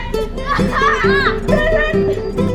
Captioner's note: kids shouting